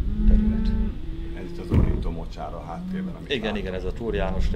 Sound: howling

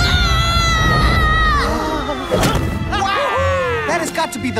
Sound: all gasp

